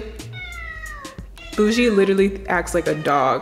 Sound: Bougie meowing

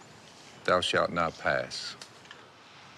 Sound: monotone

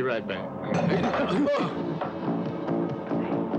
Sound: items clatter; man startles; upbeat, dramatic music

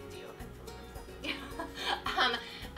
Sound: laughs

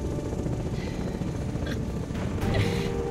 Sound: laughing

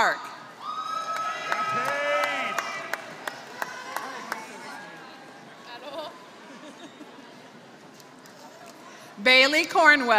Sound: applause

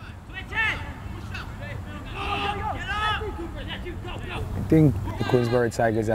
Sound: players talking and yelling

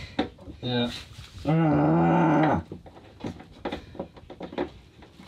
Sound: grunting

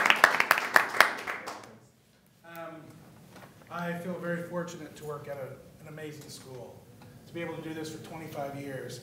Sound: applause

